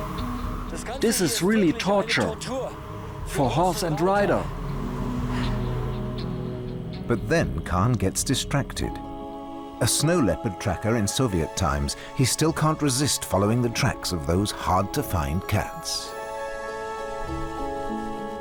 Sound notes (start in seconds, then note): 1.0 in German